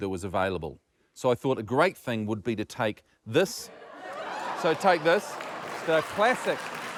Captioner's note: applause